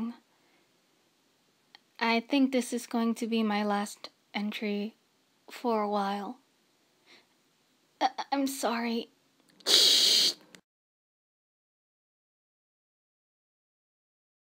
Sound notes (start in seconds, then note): 9.6 static